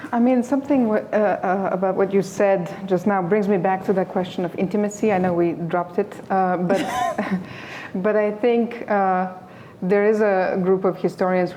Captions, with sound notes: I mean, something about what you said just now brings me back to that question of intimacy. I know we dropped it, [LAUGHS] but I think there is a group of historians